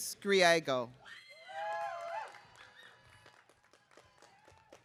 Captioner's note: audience cheering